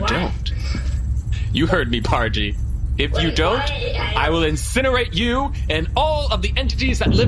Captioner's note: laughing